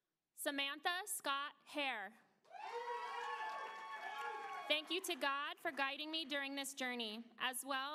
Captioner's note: applause